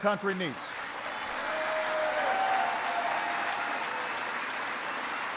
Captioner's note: applause